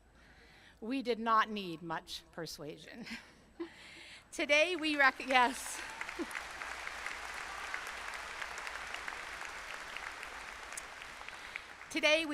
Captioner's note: applause